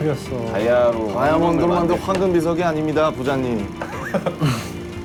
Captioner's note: rumbling